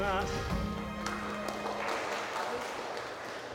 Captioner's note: applause